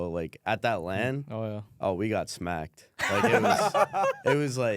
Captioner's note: laughs